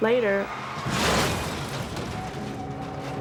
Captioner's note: car screeching